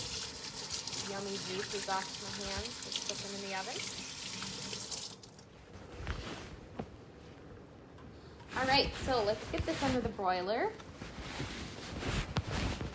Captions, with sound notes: before putting them in the oven. - (water running) - (cloth rustling) All right. So let's get this under the broiler.